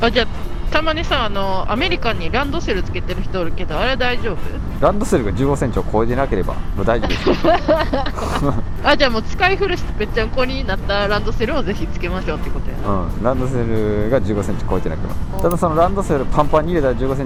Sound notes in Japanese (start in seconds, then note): 7.5 笑い